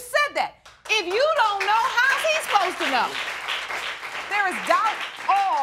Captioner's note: audience applauding